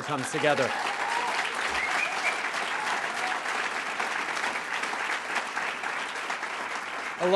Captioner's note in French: Acclamations et applaudissements